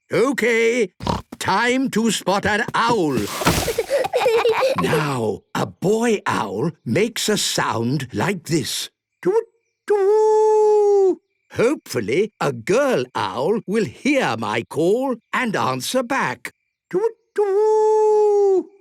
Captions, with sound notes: (snorting) Time to spot an owl. (kids giggling) Now, a boy owl makes a sound like this. Twoot-twoo! Hopefully, a girl owl will hear my call and answer back. Twoot-twoo!